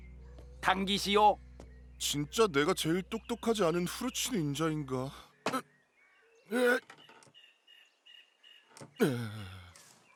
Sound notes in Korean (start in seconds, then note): 6.5 힘 쓰는 소리